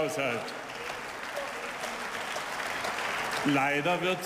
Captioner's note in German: Beifall